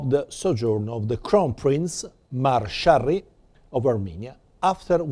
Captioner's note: non-english